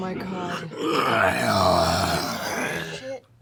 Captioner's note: roar